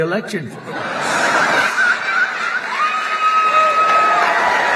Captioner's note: laughter